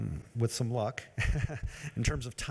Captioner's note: laughs